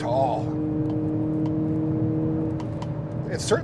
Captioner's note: car engine revving